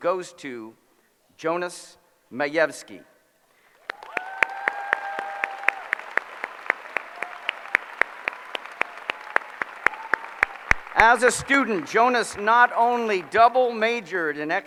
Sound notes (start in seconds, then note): 2.7 applause